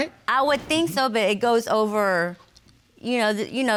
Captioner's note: none